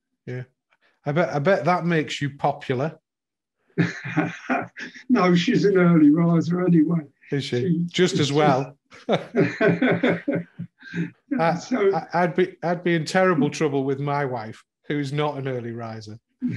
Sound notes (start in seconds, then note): 3.8 laughing; 9.0 laughing